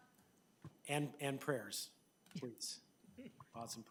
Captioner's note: laughing